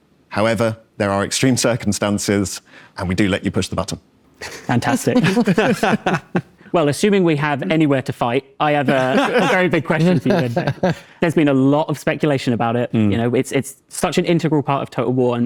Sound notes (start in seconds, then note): 4.4 laughs